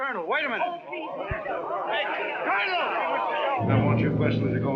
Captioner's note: chattering